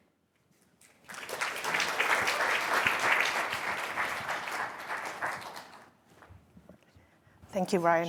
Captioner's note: applause